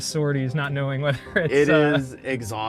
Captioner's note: chuckles